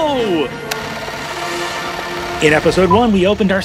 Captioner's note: bold adventure music; film reel spinning